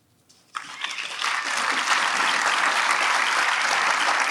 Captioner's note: audience applauds